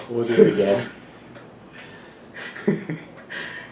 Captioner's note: laughing